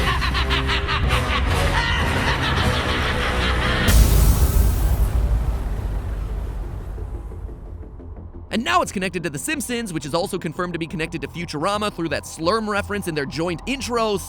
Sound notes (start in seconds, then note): 0.0 Bill laughing manically as himself and Blendin Blandin; 3.6 jumpscare; 4.6 ominous music plays